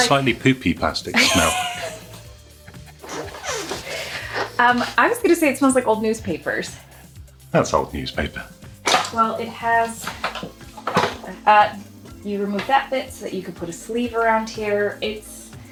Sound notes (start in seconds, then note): 2.9 laughs